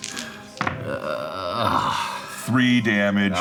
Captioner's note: groaning